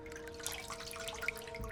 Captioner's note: water splashes